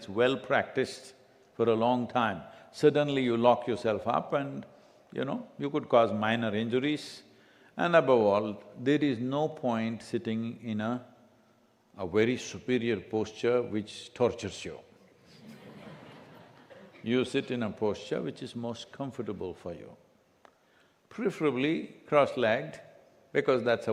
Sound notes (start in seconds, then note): 15.2 laughter